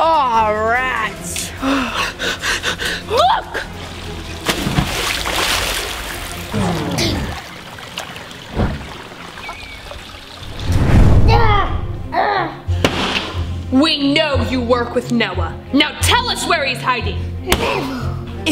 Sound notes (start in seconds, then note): 3.7 water splash; 11.2 grunting